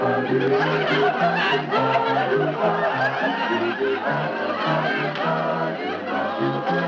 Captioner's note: audience laughing